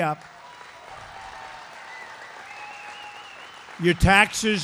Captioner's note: applause